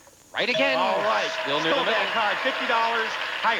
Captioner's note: audience applauding